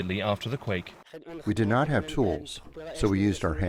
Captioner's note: through translator